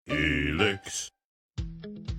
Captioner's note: male Voice